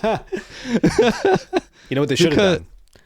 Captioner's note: laughing